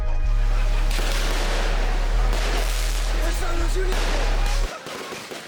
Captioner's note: fireworks banging